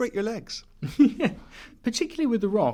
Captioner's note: laughs